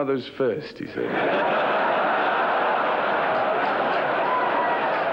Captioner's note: crowd laughing